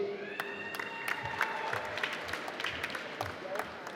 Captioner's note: applause